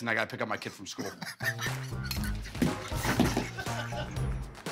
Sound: laughter

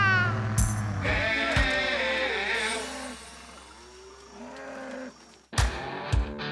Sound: mooing

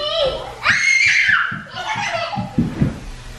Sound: scream

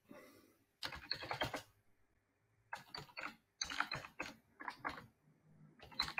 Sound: keyboard keys clicking

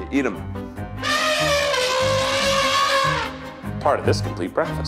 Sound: elephant trumpeting

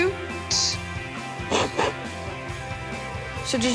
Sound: sniffling

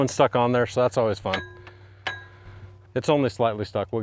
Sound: metal clanging

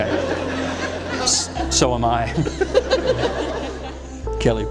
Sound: laughter

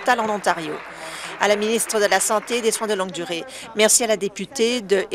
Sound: applause

